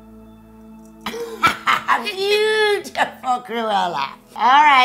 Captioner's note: laughing